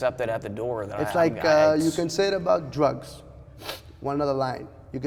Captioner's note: sniffs